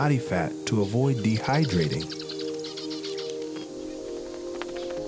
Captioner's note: birds warble